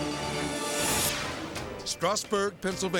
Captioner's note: screen exploding